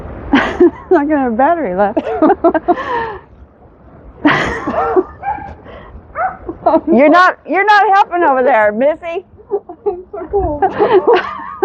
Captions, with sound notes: [Laughs] It's not gonna have battery left [Laughs] [Dog barking] You're not...you're not helping over there missy! I'm so cold